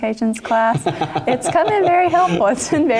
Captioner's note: laugh